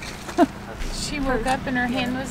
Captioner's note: chuckling